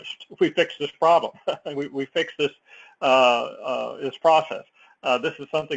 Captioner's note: laugh